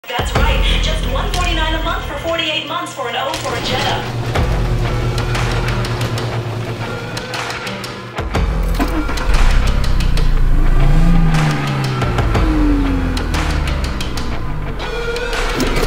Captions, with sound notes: "That's right, just $149 a month for 48 months, for an '04 Jetta [Engine starting]